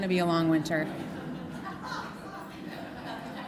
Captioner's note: laughter